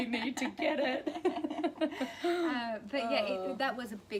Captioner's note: laughter